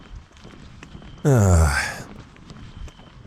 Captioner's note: sigh